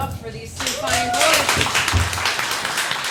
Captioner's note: applause